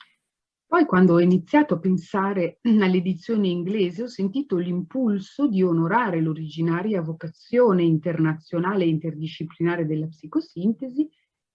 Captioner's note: speaking Italian